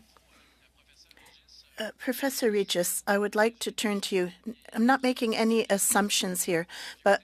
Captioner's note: speaking French